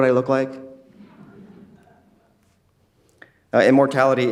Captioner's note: crowd laughing quietly